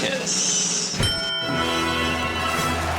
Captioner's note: bell ringing; congratulatory music; cheering